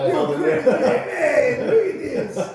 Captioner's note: laughing